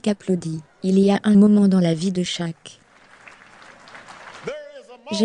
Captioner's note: audience applauds